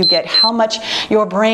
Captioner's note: timer beeping